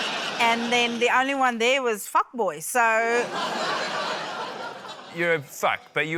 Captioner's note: laughter